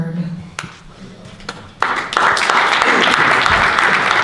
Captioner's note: audience clapping